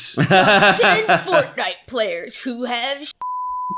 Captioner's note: laughing; beep